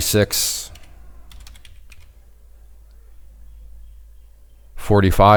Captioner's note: keyboard clicking